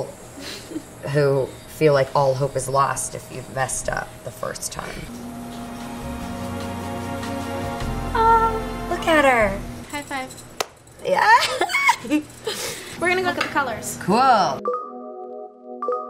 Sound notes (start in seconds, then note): 5.0 music swells; 8.2 exclaims; 11.2 giggles